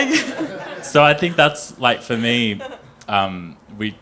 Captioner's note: group chuckling